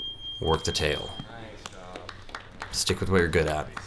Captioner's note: beep; voiceover